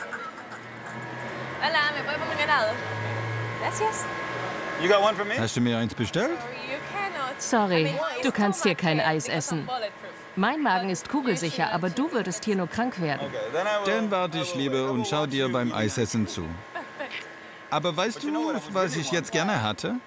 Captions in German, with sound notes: (Musik im Hintergrund) (Sie begrüßt und bestellt auf Spanisch.) Hast du mir eins bestellt? Sorry, du kannst hier kein Eis essen. Mein Magen ist kugelsicher, aber du würdest hier nur krank werden. Okay, dann wart ich lieber und schau dir beim Eisessen zu. Aber weißt du, was ich jetzt gerne hätte.